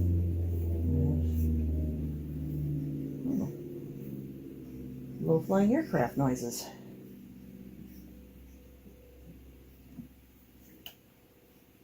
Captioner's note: low flying aircraft noises